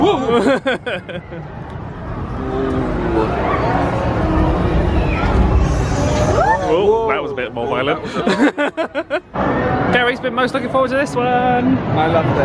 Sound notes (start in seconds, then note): 0.0 laughs; 8.1 laughs